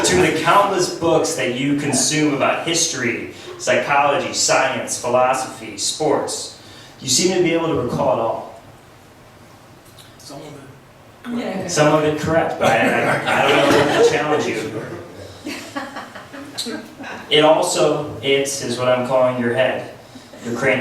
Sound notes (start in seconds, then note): 0.0 laughs; 10.0 voiceover; 15.0 laughs